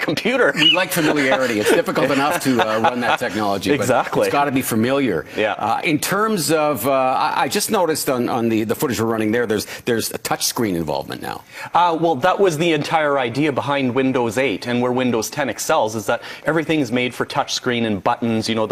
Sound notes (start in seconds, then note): 0.4 laughing